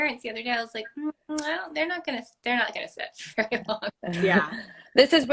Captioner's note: laugh